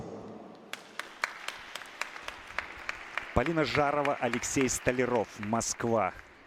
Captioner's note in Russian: аплодисменты